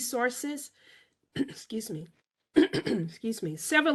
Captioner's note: clears throat